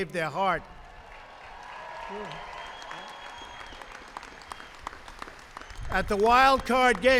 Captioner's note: applause